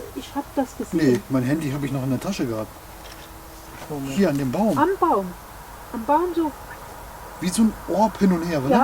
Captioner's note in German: pfeift leise